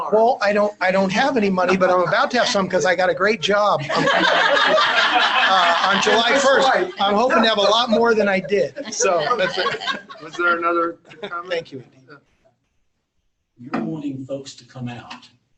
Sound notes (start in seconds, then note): 3.3 laughter